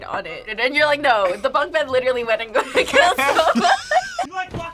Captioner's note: laughs